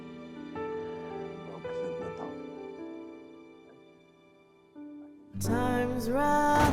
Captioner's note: speaking in Portuguese